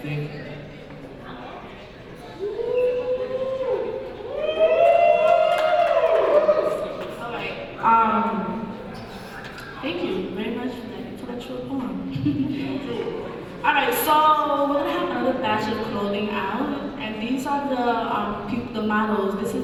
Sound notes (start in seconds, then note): 4.2 audience hooting; 12.5 chuckles